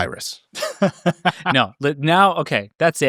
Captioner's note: laughing